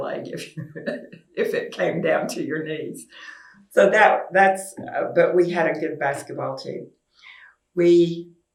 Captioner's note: laughs